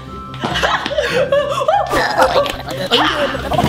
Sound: laughs

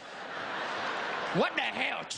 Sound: crowd laughing

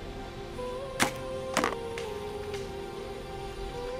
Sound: arrow clicks

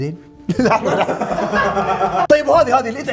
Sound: laughing

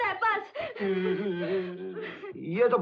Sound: crying

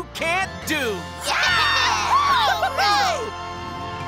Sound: cheering

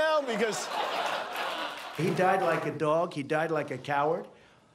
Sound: laughter

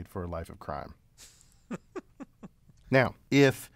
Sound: laugh

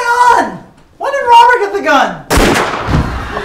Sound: gunshot blares

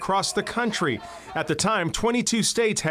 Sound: marchers chanting

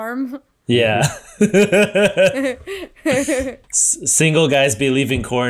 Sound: laughs

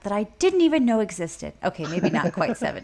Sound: laughs

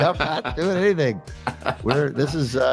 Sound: laughing

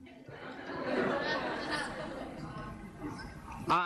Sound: audience murmuring

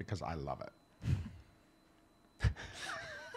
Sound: laughs

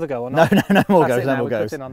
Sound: laughs

